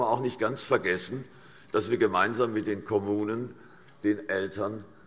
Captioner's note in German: none